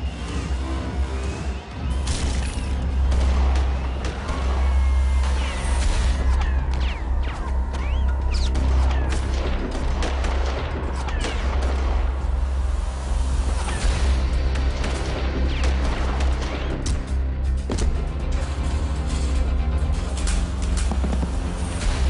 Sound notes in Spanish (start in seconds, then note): 1.0 Silbidos; 3.7 Disparos; 9.7 Sigue el tiroteo intenso; 15.1 Más disparos